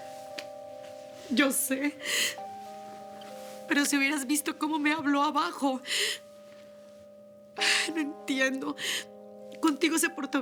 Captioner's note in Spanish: Sollozos